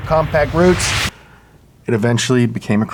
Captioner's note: none